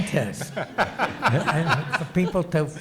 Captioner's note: audience laughs